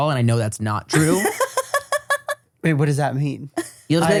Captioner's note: laughs